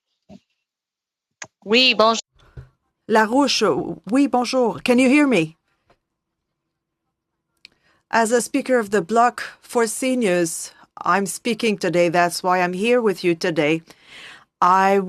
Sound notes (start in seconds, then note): 7.1 speaking French